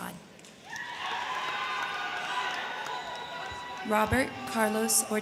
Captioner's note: crowd clapping; crowd cheering